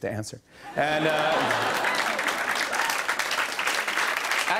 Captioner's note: laughter and applause